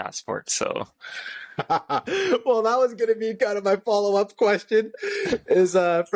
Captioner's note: laughter